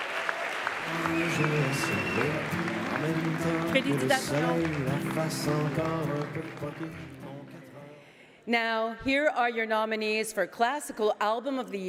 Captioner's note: speaking French